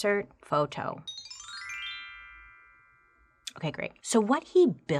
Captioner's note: photo chiming